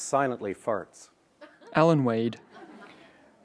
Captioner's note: laughter